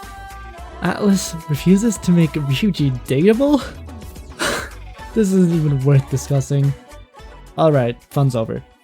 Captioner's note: sigh